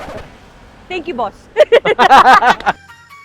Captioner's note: laughs